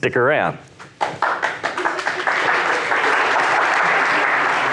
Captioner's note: audience applauds